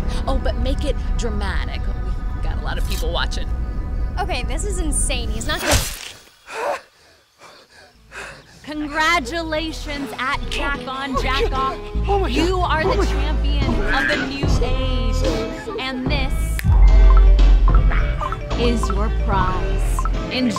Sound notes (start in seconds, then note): 6.5 flesh squelches; 7.7 Jack huffing; 18.6 upbeat music